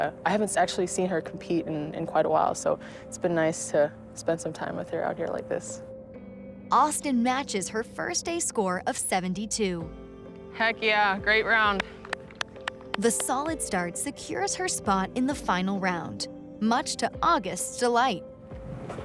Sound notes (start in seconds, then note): 11.7 applauds